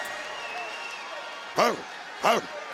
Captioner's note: crowd cheer